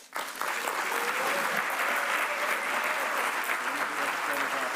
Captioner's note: audience applauds